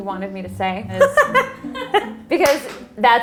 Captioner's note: laughs